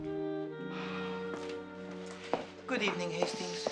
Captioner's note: Menghembuskan napas